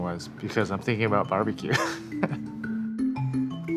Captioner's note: laughing